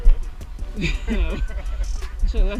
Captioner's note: laughter